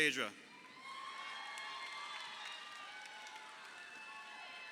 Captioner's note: crowd cheering